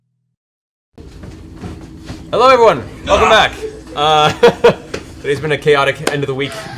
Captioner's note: laughs